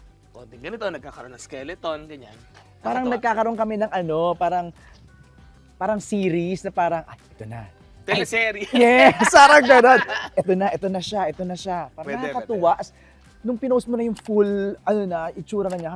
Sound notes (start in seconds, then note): 8.1 laughs